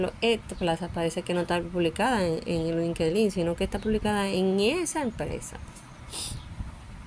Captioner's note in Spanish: resoplido